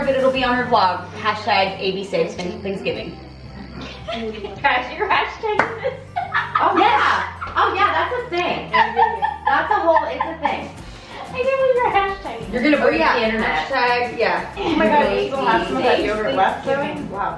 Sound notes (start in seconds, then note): 5.7 laughs; 8.7 continues laughing